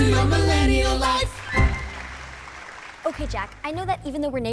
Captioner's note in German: applaus